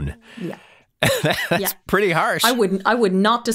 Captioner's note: laughs